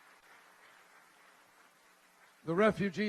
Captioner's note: applause